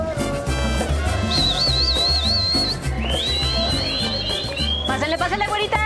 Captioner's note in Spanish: Silbidos